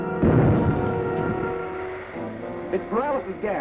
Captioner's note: gas bomb exploding